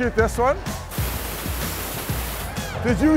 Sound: air hissing

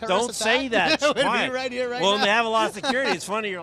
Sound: laughs

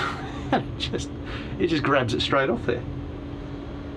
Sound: laughs

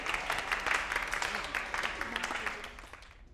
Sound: applause

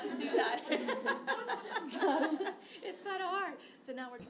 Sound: laughter

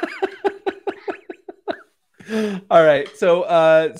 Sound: laughter

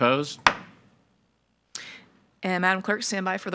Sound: gavel thudding

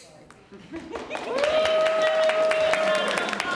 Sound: applause

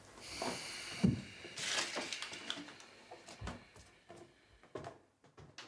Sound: exhales

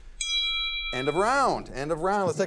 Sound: bell ringing

